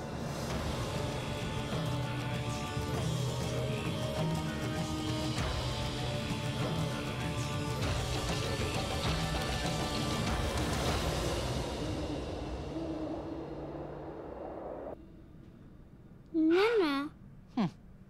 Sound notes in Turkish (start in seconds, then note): 0.1 Müzik - Gerilim; 12.6 Baykuş sesi